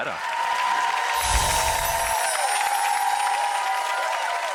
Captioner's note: audience clapping